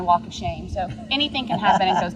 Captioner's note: laughs